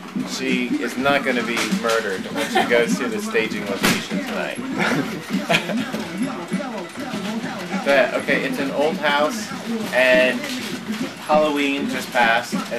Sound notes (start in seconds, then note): 4.1 laughing